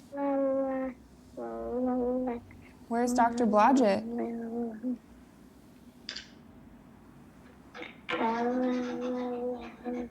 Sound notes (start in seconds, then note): 5.7 pen cap clicks open